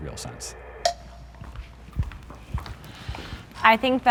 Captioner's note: footsteps clomping